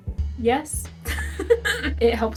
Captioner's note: laughter at the ubsurdity of the question